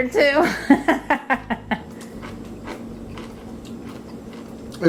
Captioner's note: woman laughs